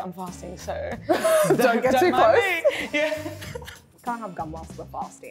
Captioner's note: laughs